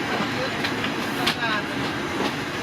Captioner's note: people chatter; rail squeals